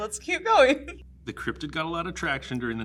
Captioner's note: giggles